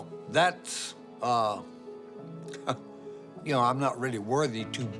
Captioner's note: chuckles